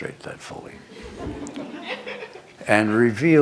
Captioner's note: laughter